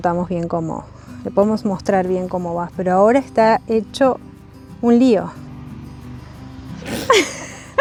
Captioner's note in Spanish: risas